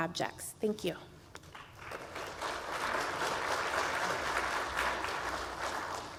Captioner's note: applause